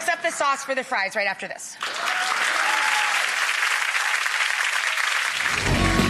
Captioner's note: audience applauds; upbeat music